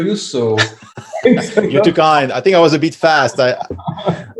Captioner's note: laughs